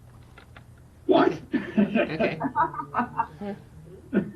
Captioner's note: laughing